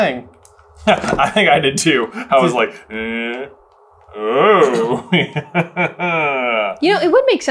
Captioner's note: laughs